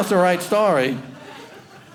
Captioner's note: audience laughing